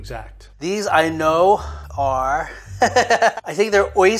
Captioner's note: laughs